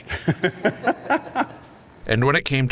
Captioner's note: laughing